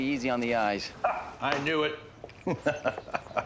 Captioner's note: laughs